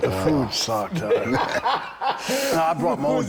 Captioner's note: Bron laughing